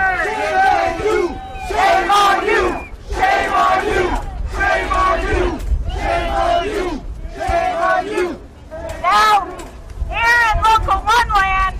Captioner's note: booing